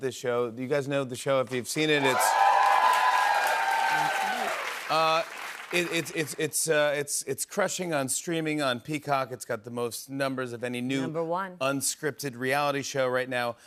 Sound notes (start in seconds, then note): 1.9 cheers and applause